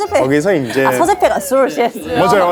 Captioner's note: awkward chuckle